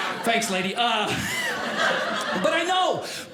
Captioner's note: audience laughing